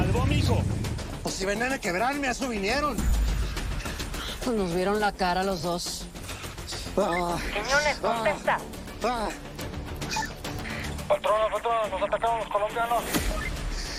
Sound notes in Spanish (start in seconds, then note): 9.5 Quejidos